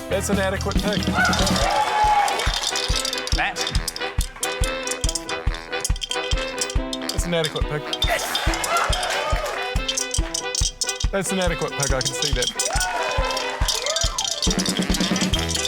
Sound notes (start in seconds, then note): 1.1 cheering, applause; 2.5 coins rattle; 8.1 cheering; 9.8 coins rattle; 12.6 cheering